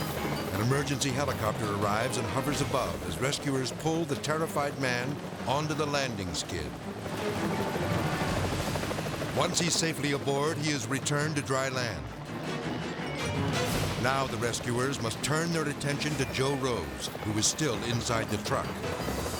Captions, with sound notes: An emergency helicopter arrives and hovers above as rescuers pull the terrified man onto the landing skid. (propellers humming) (thrilling music) Once he's safely aboard, he is returned to dry land. Now the rescuers must turn their attention to Joe Rose, who is still inside the truck,